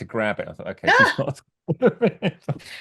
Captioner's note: laughs